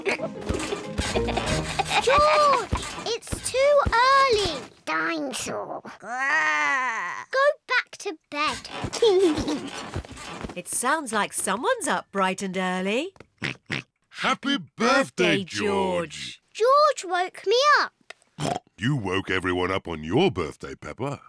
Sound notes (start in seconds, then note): 0.0 continues to laugh; 5.9 growls; 8.9 laughs; 13.4 oinks; 18.4 oinks